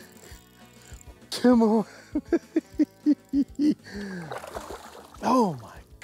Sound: giggles

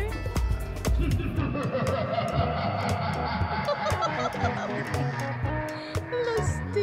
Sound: laughing

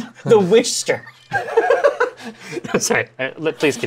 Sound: laughter

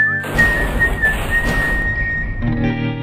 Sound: car crash 1

